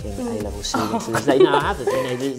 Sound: laughing

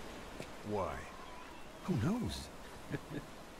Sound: laughs

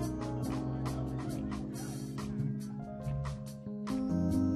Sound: audience chattering

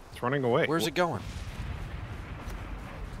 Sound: none

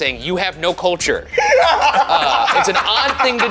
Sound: laugh

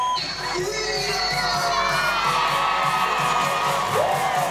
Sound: audience cheering

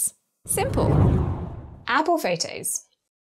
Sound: air whooshes

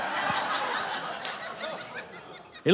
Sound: audience laughing

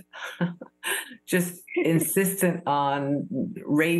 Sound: giggling

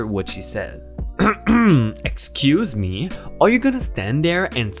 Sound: coughs

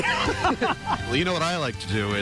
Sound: laughter

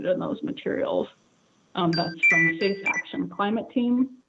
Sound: chime

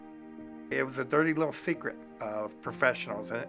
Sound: voiceover

